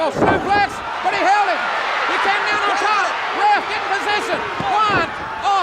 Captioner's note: audience cheers